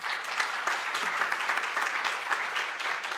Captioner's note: applause